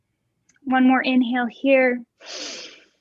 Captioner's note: inhaling